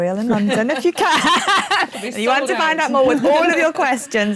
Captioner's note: laughs